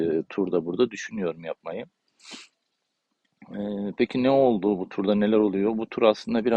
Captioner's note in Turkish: homurdanır